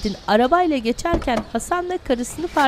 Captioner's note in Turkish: Kapı açılma sesi